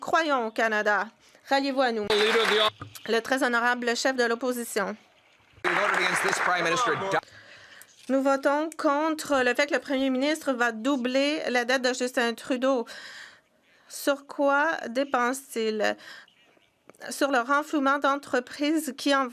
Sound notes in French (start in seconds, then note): 8.6 voix de l'interprète